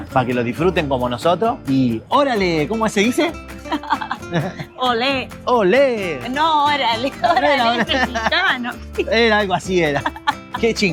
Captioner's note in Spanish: risas